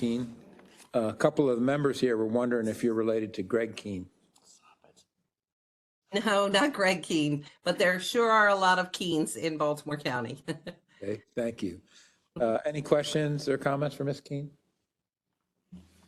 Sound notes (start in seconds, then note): 10.8 laugh